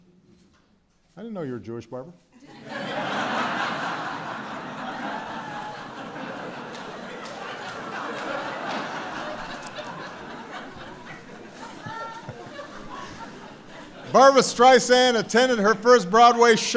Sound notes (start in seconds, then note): 5.0 laughter